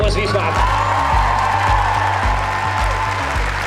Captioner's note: cheers